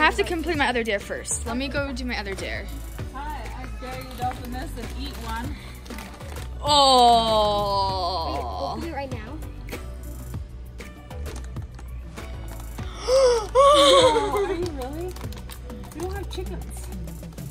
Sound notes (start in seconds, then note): 12.7 gasping